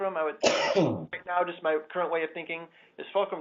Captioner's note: cough